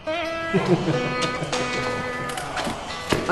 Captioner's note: guys chuckling